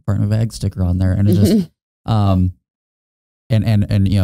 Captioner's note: chuckling